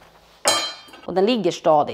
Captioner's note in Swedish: Klingande ljud